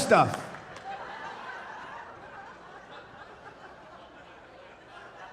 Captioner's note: audience laughing